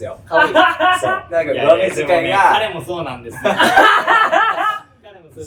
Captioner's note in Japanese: 笑い声; 爆笑する声